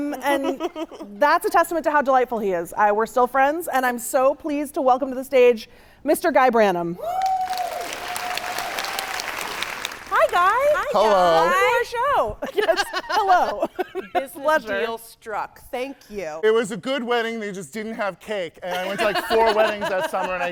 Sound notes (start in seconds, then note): 7.0 audience cheering